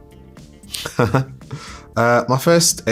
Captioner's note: chuckles